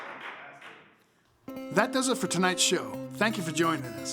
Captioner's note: applause